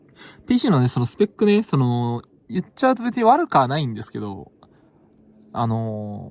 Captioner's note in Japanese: pcの処理音